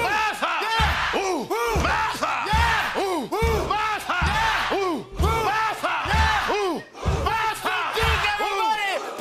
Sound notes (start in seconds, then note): 0.0 repeated chanting